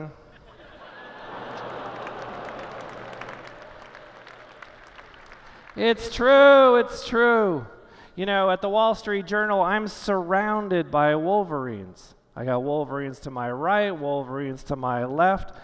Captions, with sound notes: [ Laughter ] [ Applause ] It's true. It's true. You know, at "The Wall Street Journal," I'm surrounded by Wolverines. I got Wolverines to my right, Wolverines to my left.